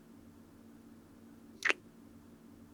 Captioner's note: kiss